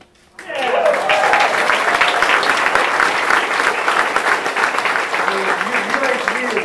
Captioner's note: audience applauding and cheering